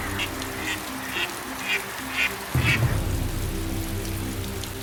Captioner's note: the cackle of ducks